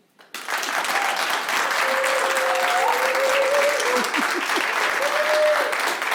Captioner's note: audience clapping and cheering